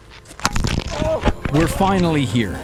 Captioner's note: ice cracking